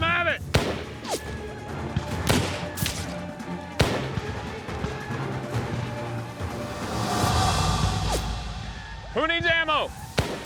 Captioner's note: gunfire